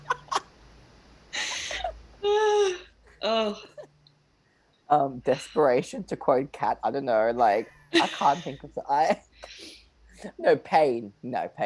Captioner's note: laughter; laughter